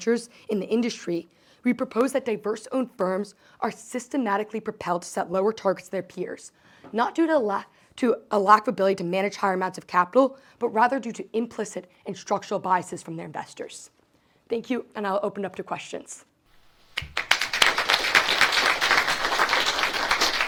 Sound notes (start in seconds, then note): 16.8 audience claps